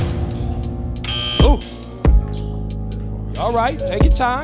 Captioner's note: buzzer